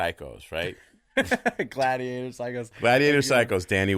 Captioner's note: laughing